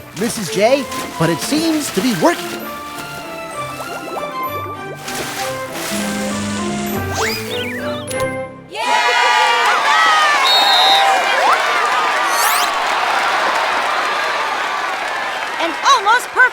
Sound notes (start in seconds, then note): 4.8 whirs like a motorboat; 8.5 cheer; 10.3 blows whistle; 10.9 applause